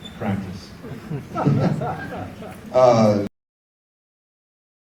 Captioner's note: audience laughs